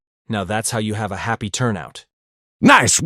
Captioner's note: none